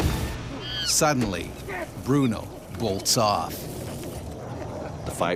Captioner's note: voiceover